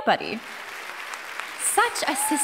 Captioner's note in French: Applaudissements